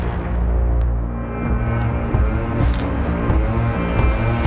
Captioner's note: low tones